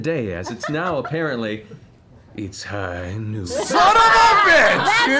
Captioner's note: McCree voice